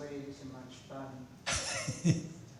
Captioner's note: laughs